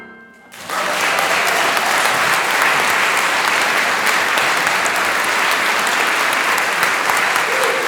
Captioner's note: applause